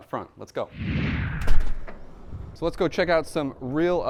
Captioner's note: air whooshing